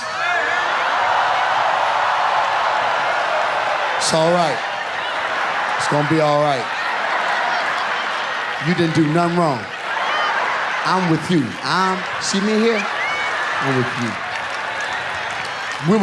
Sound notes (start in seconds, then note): 0.2 audience applauds; 6.8 audience laughs; 13.4 audience laughs